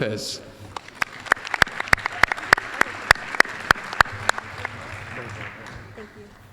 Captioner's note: applause